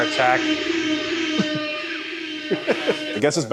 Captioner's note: blaring airhorn noises